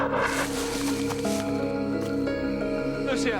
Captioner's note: leaves rustle